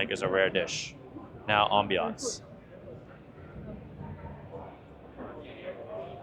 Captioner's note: people chattering